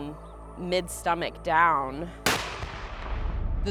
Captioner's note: explosion rattles